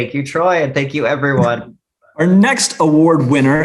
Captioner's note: chuckles